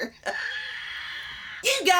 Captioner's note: laughs